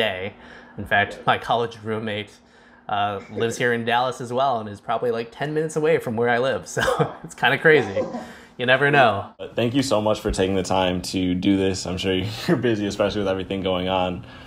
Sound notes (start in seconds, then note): 7.7 laughs